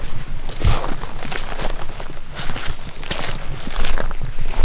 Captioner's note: footsteps pattering